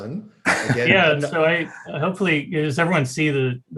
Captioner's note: laughs